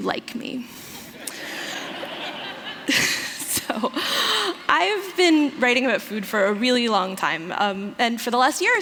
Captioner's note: laughter